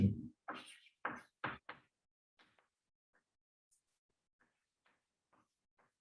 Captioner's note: chalkboard tapping loudly